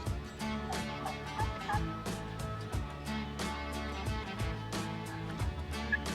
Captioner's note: upbeat guitar and snare drum music; turkey calling in distance